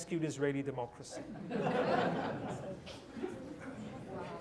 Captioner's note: laughter